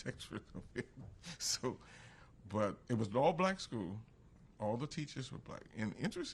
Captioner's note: laughs